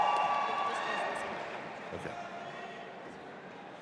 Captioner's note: audience applauding and cheering; assistant speaking faintly